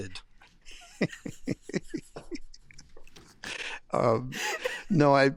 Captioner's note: laughing